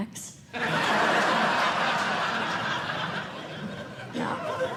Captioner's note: laughter